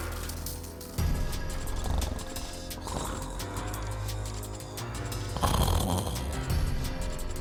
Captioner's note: gentle dramatic music continues; upbeat dramatic music; guard snoring